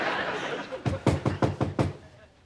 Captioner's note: knocking on door